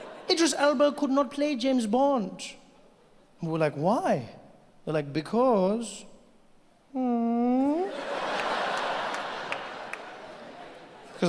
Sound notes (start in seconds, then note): 6.9 Trevor moans; 7.8 audience laughs